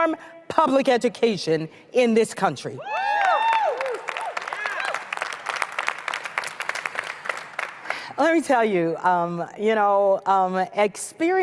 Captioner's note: applause